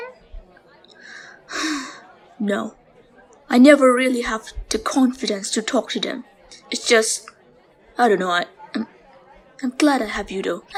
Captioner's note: sigh